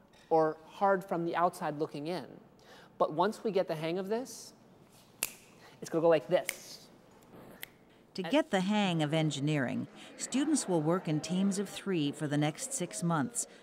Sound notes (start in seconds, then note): 5.2 snaps; 5.2 snaps in rhythm